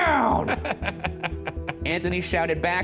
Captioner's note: laughs